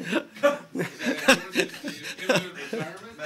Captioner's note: laughter